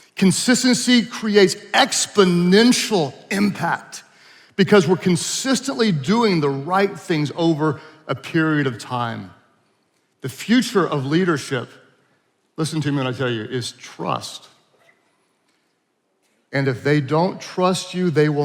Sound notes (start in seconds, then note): none